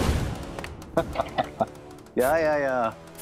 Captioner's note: laughs